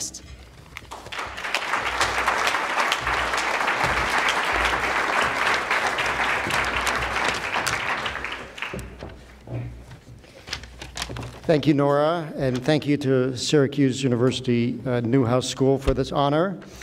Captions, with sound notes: [ Applause ] >> Thank you, Nora, and thank you to Syracuse University Newhouse School for this honor.